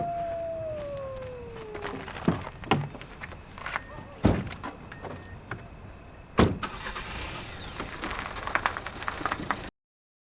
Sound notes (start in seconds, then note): 6.4 car engine starts